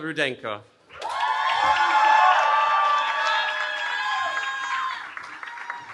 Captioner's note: cheering